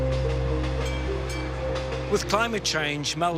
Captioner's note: bell dings